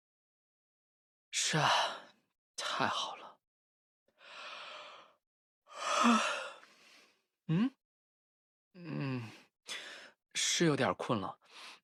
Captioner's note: yawn